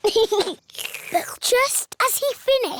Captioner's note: giggles; slurps